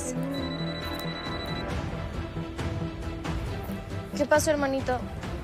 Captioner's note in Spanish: Suena el celular